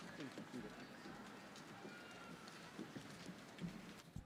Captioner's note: attendees chattering